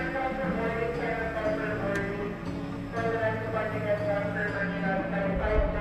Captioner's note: announcer speaking in foreign language